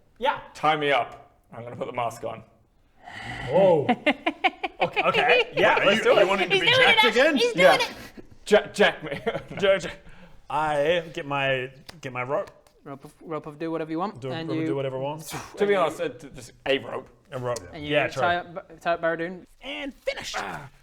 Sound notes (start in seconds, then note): 3.5 verrry suspicious laugh